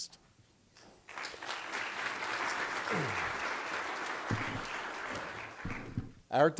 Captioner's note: applause